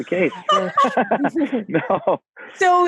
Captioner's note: laughing